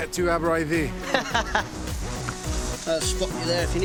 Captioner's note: laughs